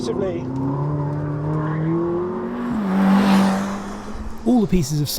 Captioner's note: engine rumbles